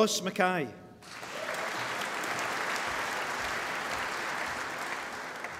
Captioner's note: applause